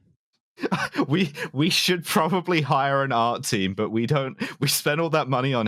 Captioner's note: laughing